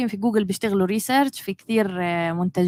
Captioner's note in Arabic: لغة أجنبية